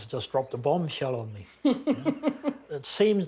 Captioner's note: chuckles